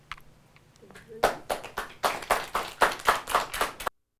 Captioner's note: applause